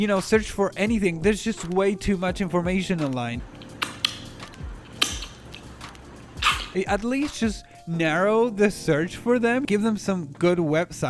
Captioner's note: chewing noise